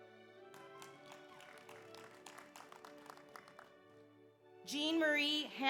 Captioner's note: audience applauds; audience cheers